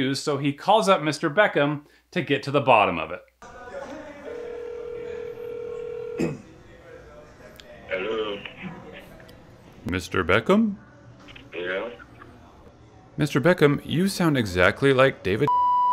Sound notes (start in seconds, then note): 4.2 phone ringing